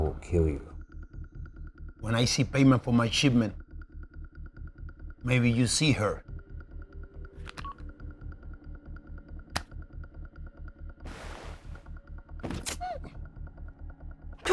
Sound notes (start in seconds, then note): 7.5 phone blips; 7.8 tense music continues; 13.2 Angie moans